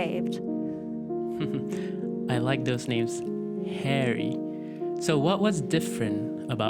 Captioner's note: Jaya chuckles